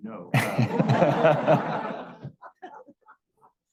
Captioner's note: laughing